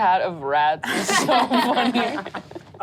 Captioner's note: laughs